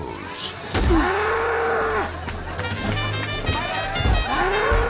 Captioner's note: bull grunting